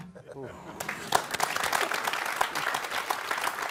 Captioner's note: applause